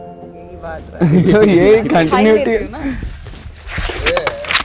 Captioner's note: Pages flipping